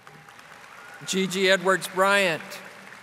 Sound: audience applauding

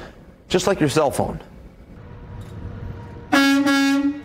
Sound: / : 14:22:45 truck honks

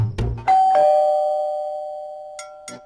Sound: door bell ringing

